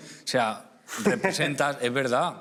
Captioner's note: laughs